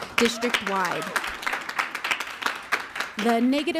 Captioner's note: audience clapping